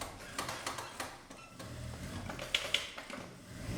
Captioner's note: sewing machine sound in the background